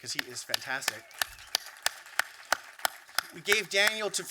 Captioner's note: applause